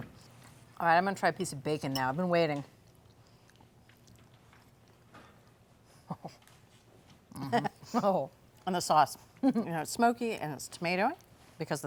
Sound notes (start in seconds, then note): 6.0 chuckling